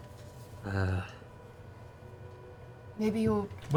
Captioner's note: none